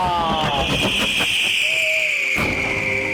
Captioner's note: fireworks whistling; gentle music